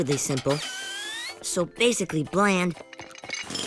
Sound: drilling

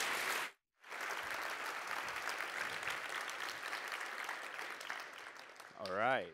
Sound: applause

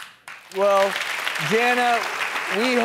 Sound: audience applause

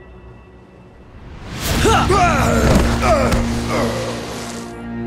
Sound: grunting

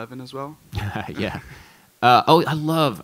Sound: laughs

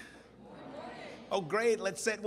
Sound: crowd

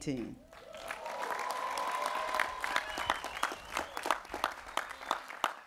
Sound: cheering

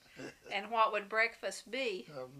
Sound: laughs

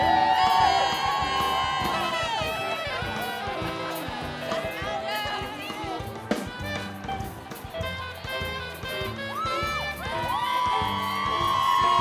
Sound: applause

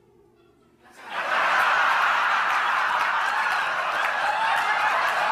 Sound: audience laughing

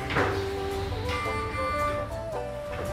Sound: mechanical beeping

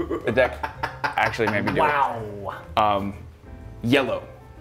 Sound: laugh

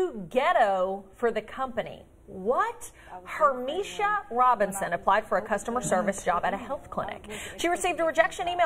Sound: laughter

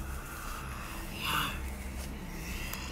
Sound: hissing/growling

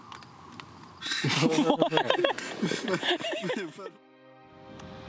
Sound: laughter

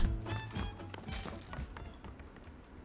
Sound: footsteps

